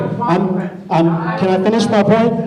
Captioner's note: shouting